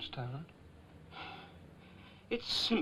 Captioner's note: sighing